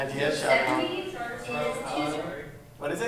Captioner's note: chatter